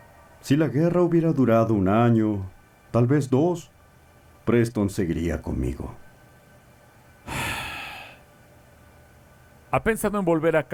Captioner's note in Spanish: suspiro